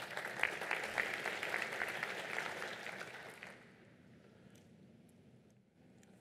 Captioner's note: applause